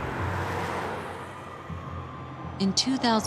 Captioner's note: siren